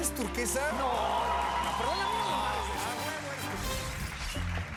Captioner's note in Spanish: aplausos